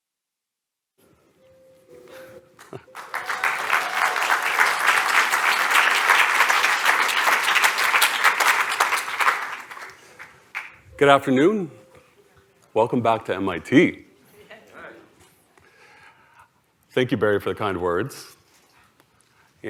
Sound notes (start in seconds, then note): 2.6 applause